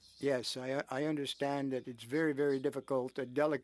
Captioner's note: speaking French